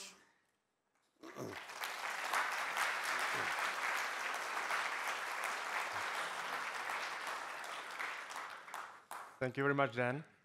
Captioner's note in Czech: Potlesk